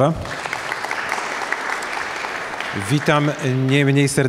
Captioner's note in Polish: oklaski